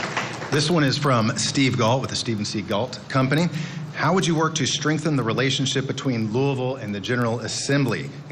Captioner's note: applause